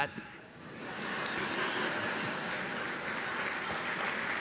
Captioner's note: audience laughing; audience applauding